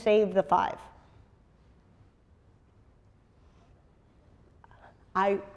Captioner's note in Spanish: pausa